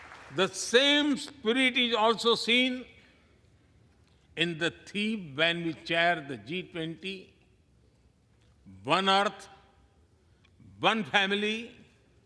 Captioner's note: applause